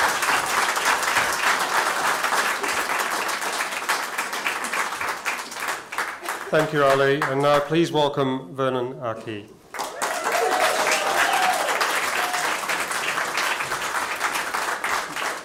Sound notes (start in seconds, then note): 9.7 applause